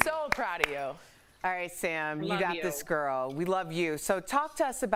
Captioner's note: applause